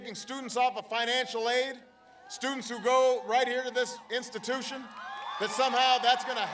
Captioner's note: applause